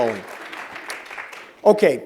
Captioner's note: applause